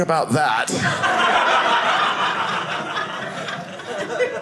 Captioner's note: audience laughing